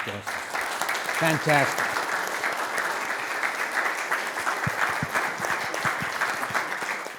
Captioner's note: audience clapping